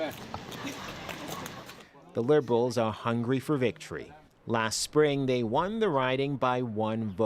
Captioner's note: speaking French